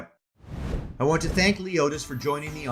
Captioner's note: graphic swooshing